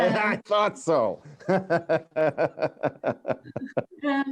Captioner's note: laughter